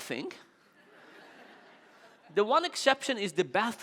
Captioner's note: audience laughing